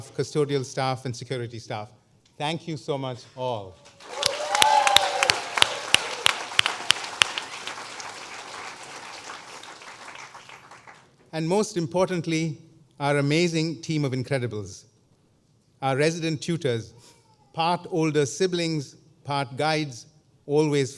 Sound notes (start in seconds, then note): 3.8 applause